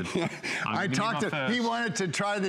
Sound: laughter

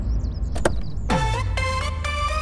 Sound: door opens

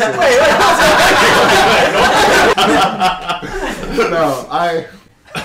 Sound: protests

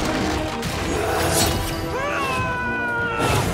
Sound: yelling

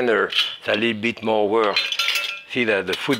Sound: food mill clinking

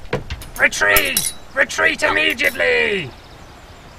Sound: swords clattering

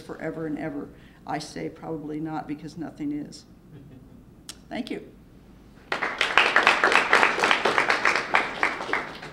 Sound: clapping

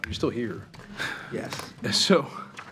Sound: trustees chuckling

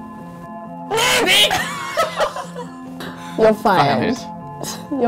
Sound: laughing

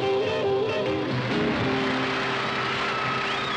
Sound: audience applauding

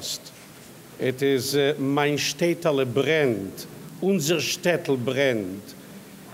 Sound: speaks in foreign language

